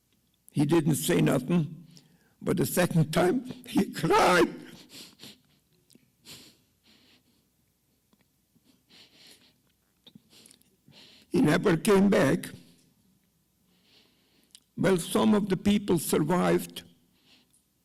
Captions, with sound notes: he didn't say nothing. But the second time, [sobs] he cried. [sniffs] He never came back. Well, some of the people survived